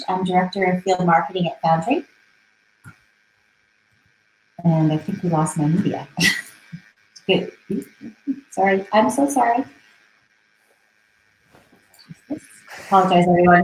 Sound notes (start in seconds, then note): 6.2 chuckling